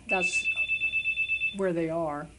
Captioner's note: phone rings